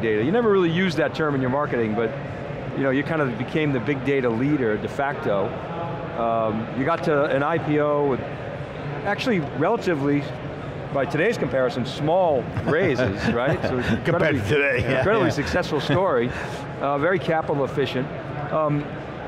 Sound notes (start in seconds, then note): 12.5 laughs